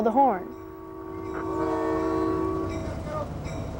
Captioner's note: horn blowing